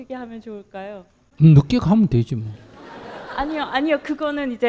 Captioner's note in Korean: 청중 웃음